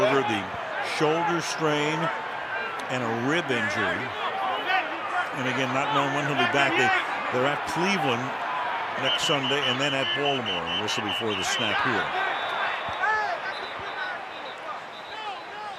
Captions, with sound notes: Roethlisberger-- the shoulder strain and a rib injury, and again, not knowing when he'll be back. They're at Cleveland next Sunday and then at Baltimore. [whistling] A whistle before the snap here. [yelling]